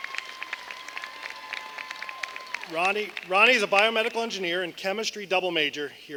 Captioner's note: applause